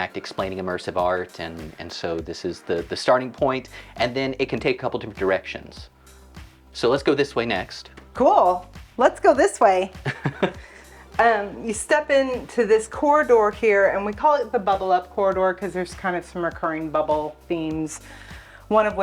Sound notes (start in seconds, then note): 10.0 laughs